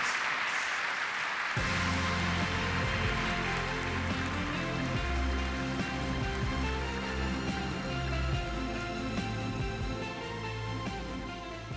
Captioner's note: applause